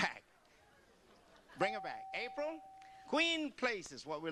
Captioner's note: beep